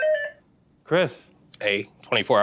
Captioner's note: beeping